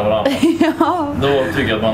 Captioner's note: laughter